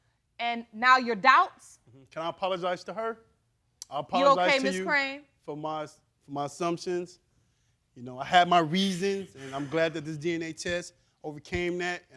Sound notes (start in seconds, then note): none